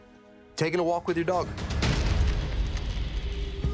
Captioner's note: coins clinking